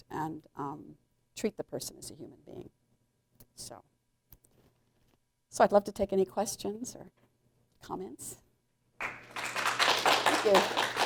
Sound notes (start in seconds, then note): 9.0 applause